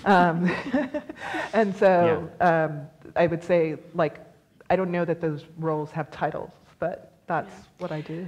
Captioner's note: laughs; laughs